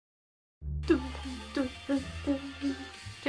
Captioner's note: hums